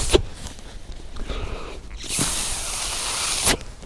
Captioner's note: breath